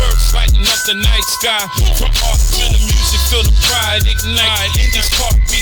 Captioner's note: boom, boom